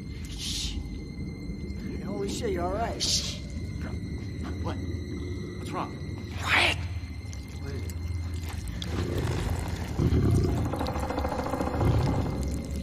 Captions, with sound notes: Shh! - Holy shit, you were right. - Shh! What? What's wrong? [both whisper] Quiet! What is it? [centipede growls]